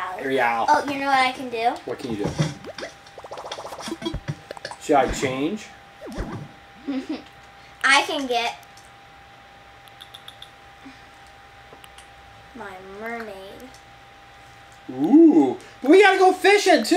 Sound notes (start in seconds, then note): 3.4 button noises; 6.8 laughs